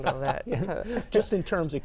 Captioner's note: laughs